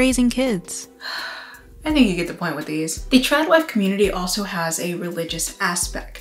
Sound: sigh

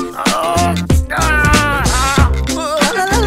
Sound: moaning in agony

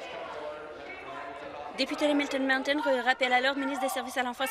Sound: yelling off mic

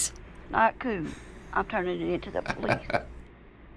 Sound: chuckles

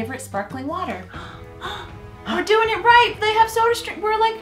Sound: excited breathing

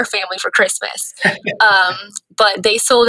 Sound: laughing

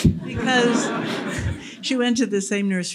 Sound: laughter

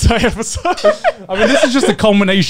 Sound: laughing

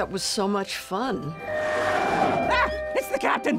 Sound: sirens & tires skidding

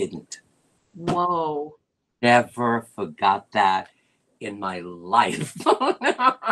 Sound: laughter

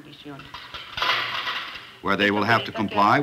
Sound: metal clanking

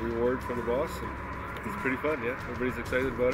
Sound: voiceover

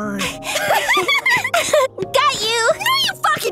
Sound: children laughing

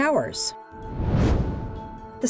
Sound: whoosh

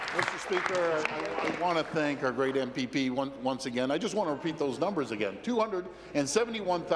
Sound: applause

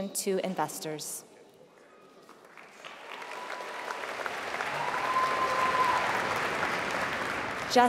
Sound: applause

